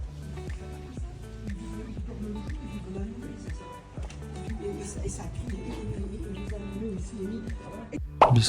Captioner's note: speaking French